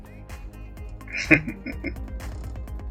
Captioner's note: chuckling